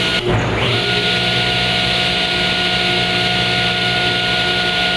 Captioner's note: machine humming